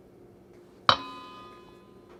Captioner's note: metallic ding